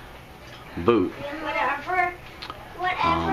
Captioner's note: background noise and kids